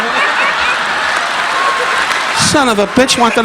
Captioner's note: audience applauding; audience laughing